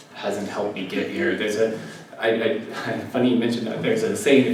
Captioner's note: laugh